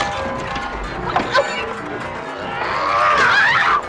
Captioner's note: whines; screams